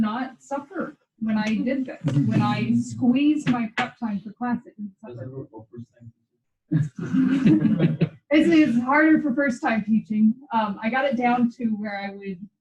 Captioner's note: laughter